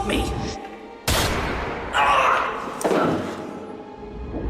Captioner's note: gunshot; eddie screams